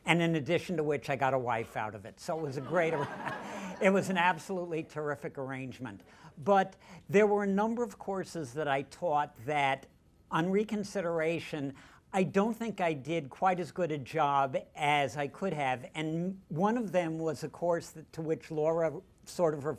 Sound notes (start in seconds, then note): 2.3 laughter